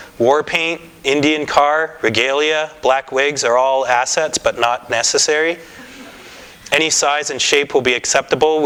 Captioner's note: laughter